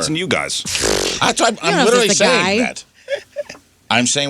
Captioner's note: fart